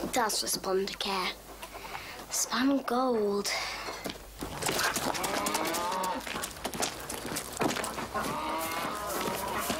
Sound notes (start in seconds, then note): 5.6 cows calling